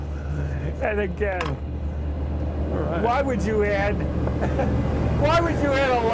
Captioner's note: laughs